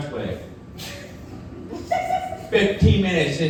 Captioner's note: audience laughing